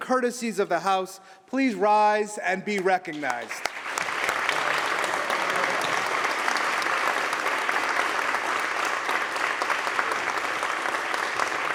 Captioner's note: applause